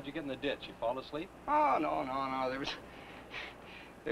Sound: chuckles

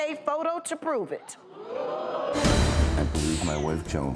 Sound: audiences oohs

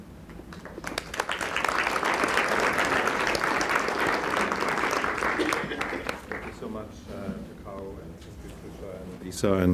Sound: applause

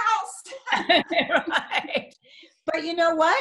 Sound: both laughing

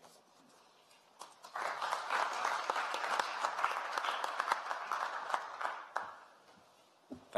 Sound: applause

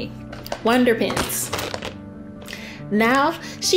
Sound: paint pens clatter

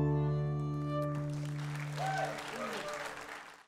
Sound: audience applauds

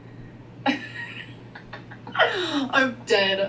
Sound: laughing

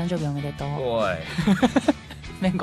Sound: laughing

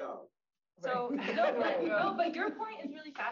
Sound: audience laughs

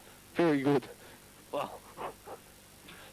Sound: chuckles

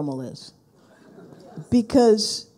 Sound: people laughing

